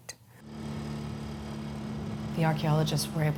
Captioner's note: vehicle engine sounds